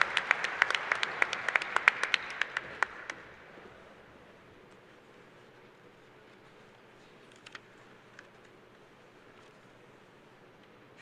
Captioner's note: applause